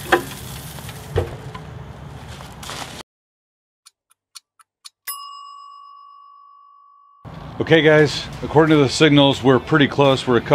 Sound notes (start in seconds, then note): 4.3 clock dings